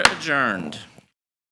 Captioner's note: gavel bangs